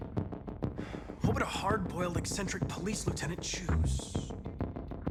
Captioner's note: sigh